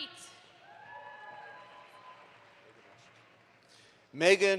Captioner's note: audience applauds